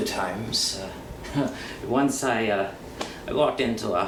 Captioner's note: laughs